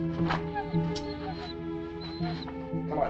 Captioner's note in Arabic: كلب يئن